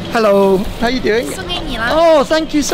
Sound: foreign language

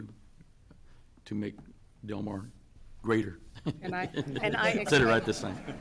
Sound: laughs

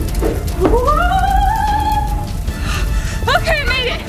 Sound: mom screaming

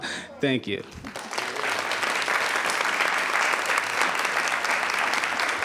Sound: audience applauding

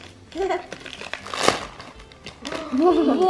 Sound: paper ripping

